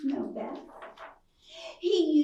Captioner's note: page Swishes